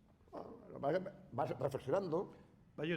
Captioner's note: speaking spanish